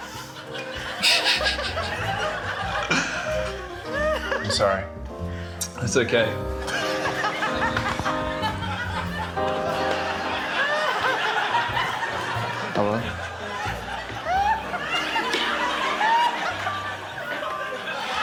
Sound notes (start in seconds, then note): 1.1 snorts; 9.7 laughter; 14.5 laughs loudly